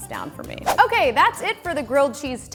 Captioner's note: whooshing